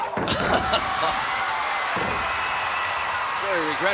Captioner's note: crowd cheering